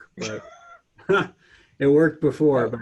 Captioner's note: laughter